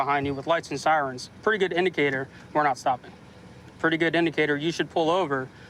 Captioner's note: none